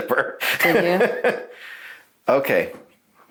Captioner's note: laughs